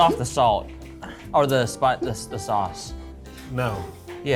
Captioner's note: hiccups; hiccups